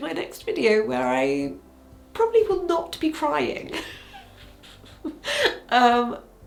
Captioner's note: laughs